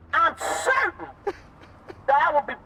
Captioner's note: Malcolm laughing